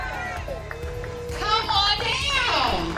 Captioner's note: cheering